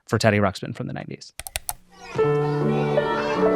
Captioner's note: button clicks; children chattering; bright music